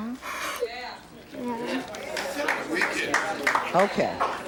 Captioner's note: clapping